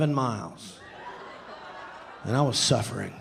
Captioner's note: audience laughing